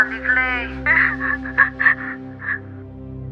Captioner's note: sobs